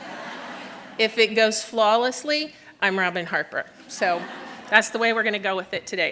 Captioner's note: laughter